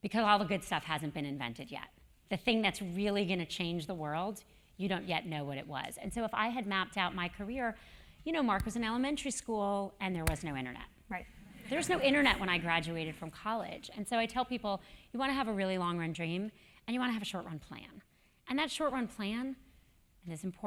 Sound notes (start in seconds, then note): 11.6 laugh